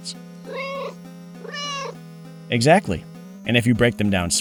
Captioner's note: meow